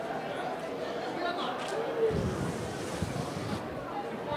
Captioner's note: chattering